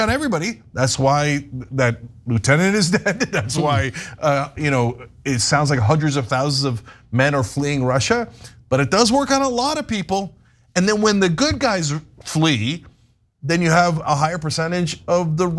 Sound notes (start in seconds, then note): 2.6 laugh